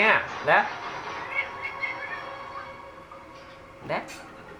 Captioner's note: Sugar screams from a distance